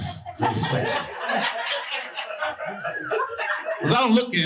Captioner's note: audience laughing